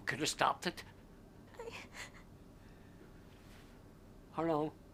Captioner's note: whimpering